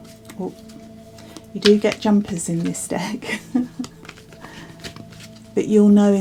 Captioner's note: laughs